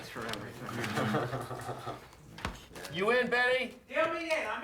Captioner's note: laughs